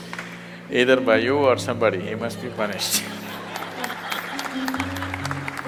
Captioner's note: laughter and Applause